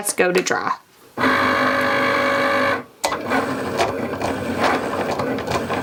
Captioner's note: Cricut machine whirring